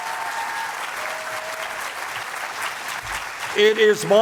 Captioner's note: applause